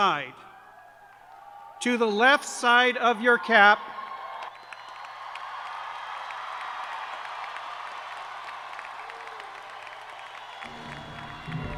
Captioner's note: cheers and applause